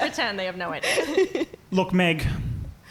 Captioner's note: laughing